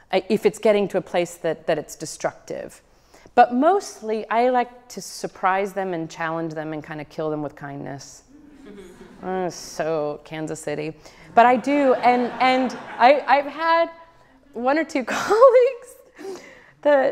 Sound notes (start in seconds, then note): 11.3 audience laughs; 16.0 giggles